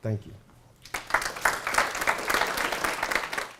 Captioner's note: applause